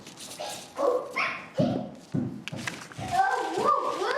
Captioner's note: child chatters